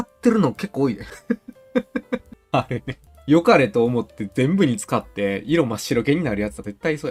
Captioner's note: laughs